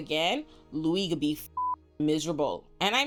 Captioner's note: beep